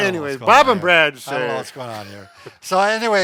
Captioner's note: laughs